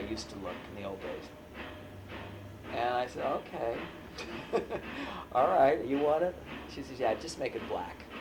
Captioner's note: laughs